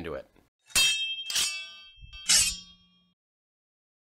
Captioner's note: swords clashing